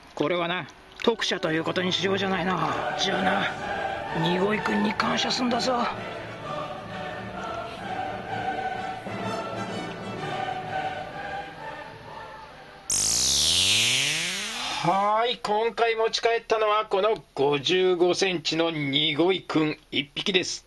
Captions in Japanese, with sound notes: これはな、特赦ということにしようじゃないの。 じゃあな、ニゴイ君に感謝するんだぞ (効果音) は～い。今回持ち帰ったのは この55センチのニゴイ君一匹です